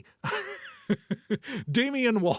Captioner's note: laughing